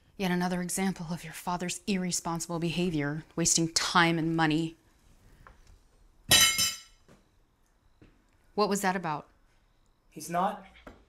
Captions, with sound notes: Yet another example of your father's irresponsible behavior, wasting time and money. (silverware clanging) What was that about? - He's not,